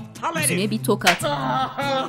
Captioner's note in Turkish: Tokat sesi